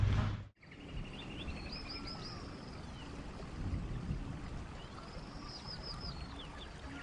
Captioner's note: birds chirping; water flowing